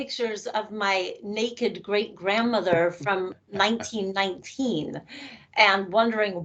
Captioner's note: chuckling